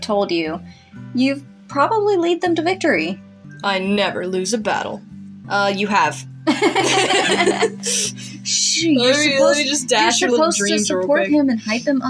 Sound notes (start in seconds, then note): 6.4 both Laugh